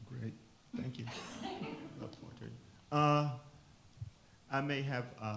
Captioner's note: attendees laugh; speaks faintly